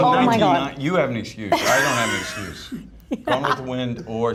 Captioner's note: laughs